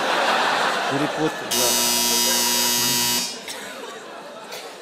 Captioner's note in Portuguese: campainha